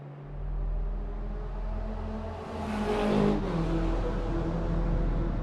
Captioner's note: car engine roaring